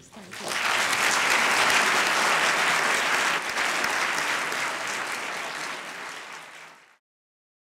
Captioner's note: applause